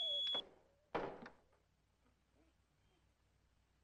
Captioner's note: thumping continues